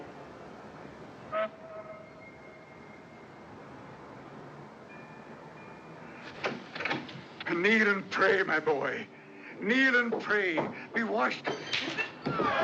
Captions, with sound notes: [ Door Opens ] KNEEL AND PRAY, MY BOY! . KNEEL AND PRAY! BE WASHED...